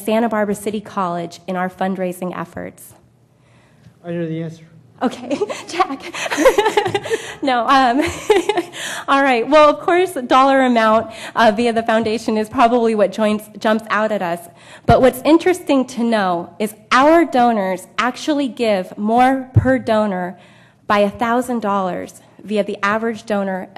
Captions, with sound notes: Barbara City College in our fundraising efforts. >> I know the answer. >> Okay. [laugh]. Attack. [laugh]. No [laugh]. All right. Well, of course, dollar amount via the Foundation is probably what joints, jumps out at us. But what's interesting to know is our donors actually give more per donor by a thousand dollars via the